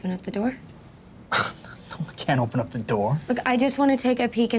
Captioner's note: scoffs